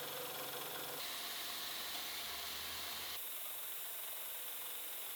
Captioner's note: machine whirring